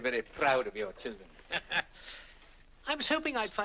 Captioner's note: laughs